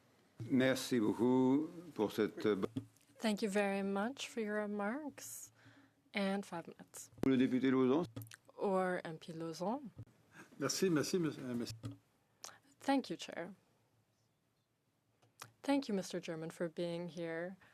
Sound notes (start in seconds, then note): 4.1 speaking French